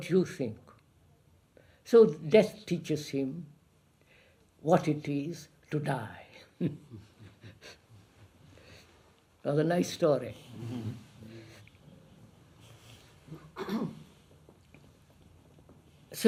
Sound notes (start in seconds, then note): 6.6 laughs